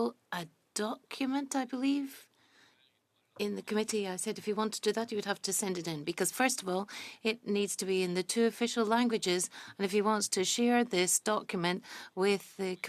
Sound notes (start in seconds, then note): 2.7 speaking French